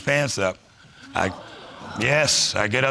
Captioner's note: crowd groaning